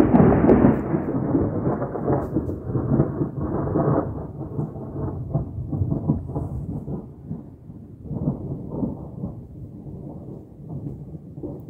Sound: extremely close and loud thunder; loud thunder fades

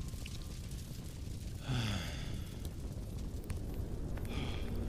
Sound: deep exhale

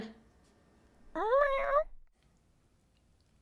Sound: gentle Cat Meow Sound Effect

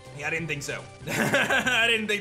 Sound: laughs

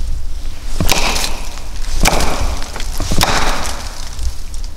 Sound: wood knocking

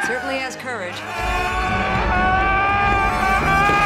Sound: screaming

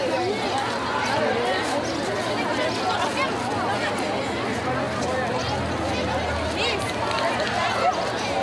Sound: children yell and talk

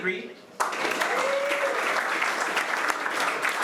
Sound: applause

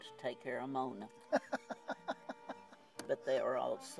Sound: laughs

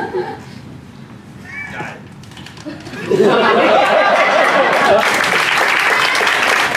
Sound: laughter; applause

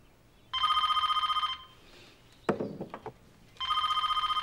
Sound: phone rings

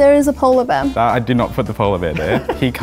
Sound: laughs

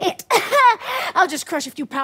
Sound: laughs

